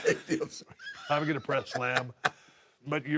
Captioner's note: laugh